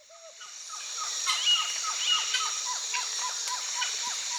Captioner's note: birds tweeting